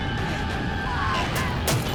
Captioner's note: wet thunks